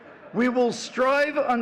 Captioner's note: all laughing